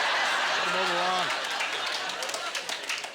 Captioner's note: audience laughter